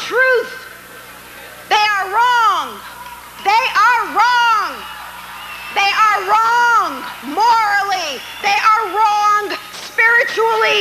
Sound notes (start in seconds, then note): 4.5 audience cheers